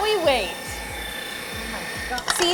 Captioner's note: machine whirs